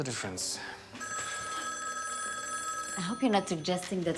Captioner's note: phone ringing